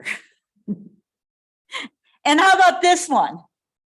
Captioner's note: chuckles